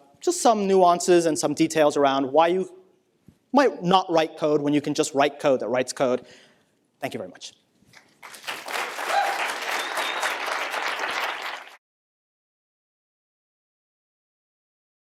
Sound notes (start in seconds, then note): 7.9 applause